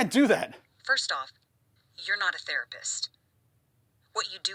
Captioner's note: on phone